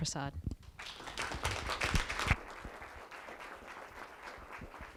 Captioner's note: applause